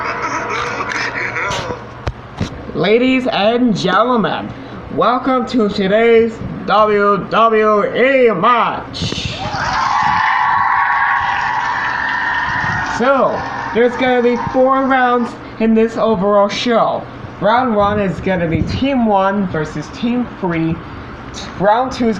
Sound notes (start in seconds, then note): 0.0 laughing; 9.4 cheering And Clapping